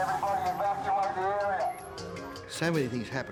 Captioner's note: siren wailing